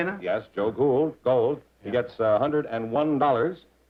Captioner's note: none